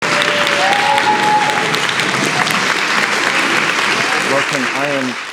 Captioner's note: audience cheering and applauding